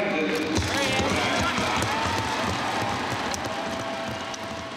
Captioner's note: crowd claps and cheers